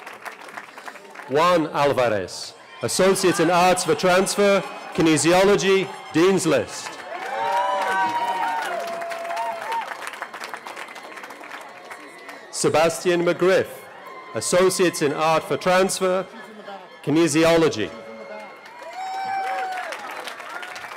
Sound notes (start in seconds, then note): 0.0 cheering; 9.5 cheering; 20.7 cheering